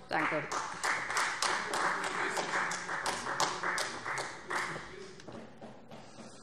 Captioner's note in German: Beifall Freie Demokraten